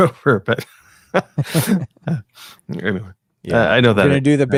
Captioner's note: laughing